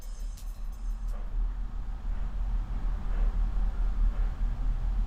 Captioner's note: clock ticking